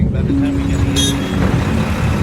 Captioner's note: horn honking